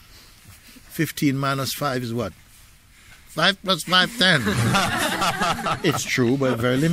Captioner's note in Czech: smích